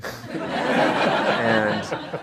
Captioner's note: audience laughter